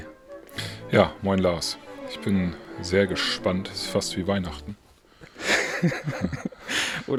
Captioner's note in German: gelächter